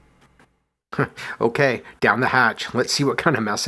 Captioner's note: chuckles